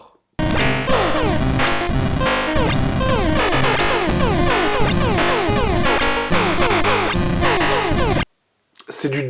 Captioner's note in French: Superposition de bruits chiants en 8-bits